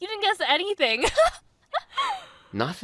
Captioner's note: amanda laughs